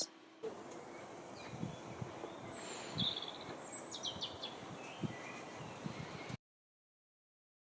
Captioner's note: wind blowing through trees, birds singing